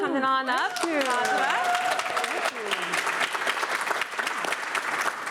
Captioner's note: applause